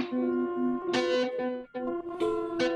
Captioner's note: sobbing